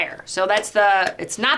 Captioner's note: hands clapping